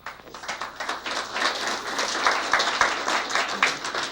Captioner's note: applause